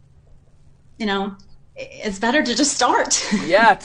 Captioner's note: laughs